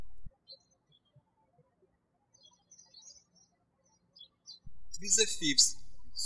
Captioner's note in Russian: птички щебечут